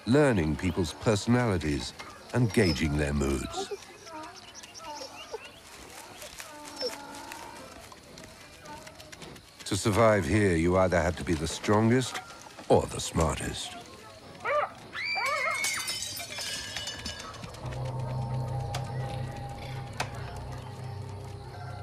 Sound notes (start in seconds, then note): 14.4 dog yelping; 14.9 girl screaming